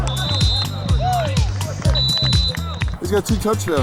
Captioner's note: whistles